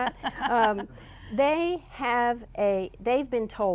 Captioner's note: laughter